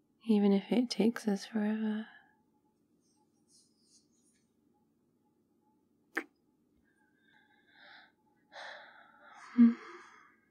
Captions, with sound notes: even if it takes us forever *kiss*